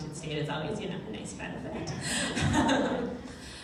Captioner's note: laughs